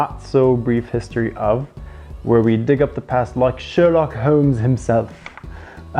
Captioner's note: spoken in a terrible British accent